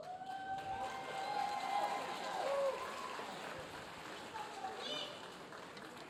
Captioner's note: audience applauding; audience cheering